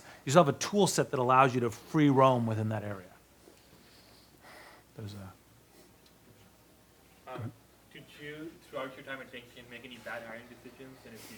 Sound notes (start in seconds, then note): 7.9 voiceover